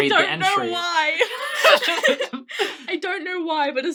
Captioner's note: laughing